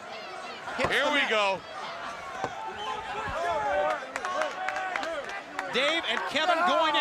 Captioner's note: crowd chatter